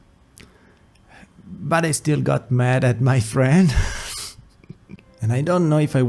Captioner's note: laughs